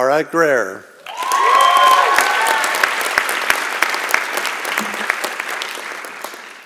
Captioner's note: applause and Cheering